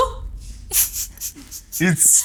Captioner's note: laughs